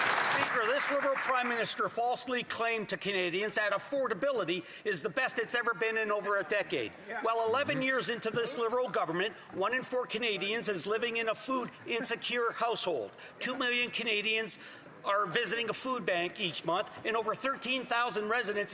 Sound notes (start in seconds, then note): 2.3 some Applause